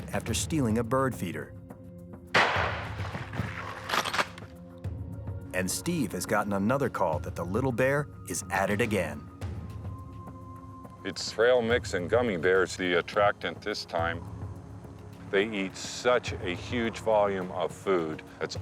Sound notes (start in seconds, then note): 2.3 gun blasting; 4.0 gun pump clacking